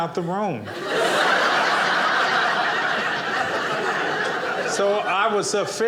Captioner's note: audience laughing